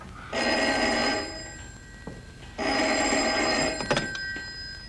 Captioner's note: phone ringing